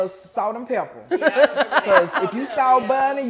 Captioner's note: laughing